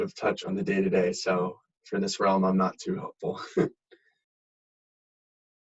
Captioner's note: laughs